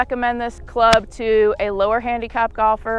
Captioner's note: golf ball smacks